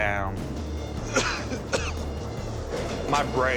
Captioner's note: coughs